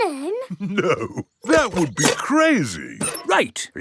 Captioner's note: chuckling